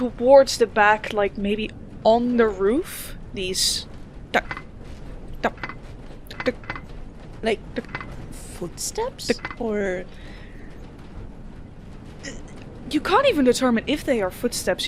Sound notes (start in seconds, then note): 6.2 metallic tapping begins